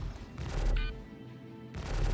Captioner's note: beeping